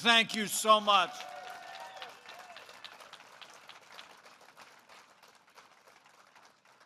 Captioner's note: applause